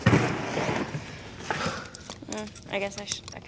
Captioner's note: Ashley sighs